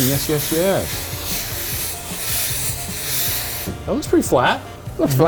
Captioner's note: steam hissing; upbeat music continues